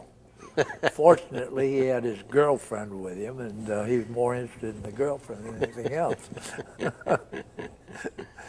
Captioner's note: both laugh